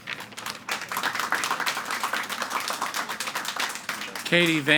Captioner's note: audience applauding